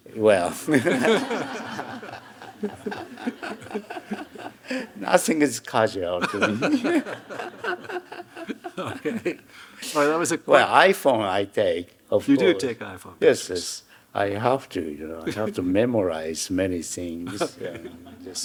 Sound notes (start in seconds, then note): 0.4 Hiroshi laughing; 0.4 audience laughing; 6.1 Hiroshi laughing; 6.2 laughing; 17.3 audience chuckling; 17.4 chuckling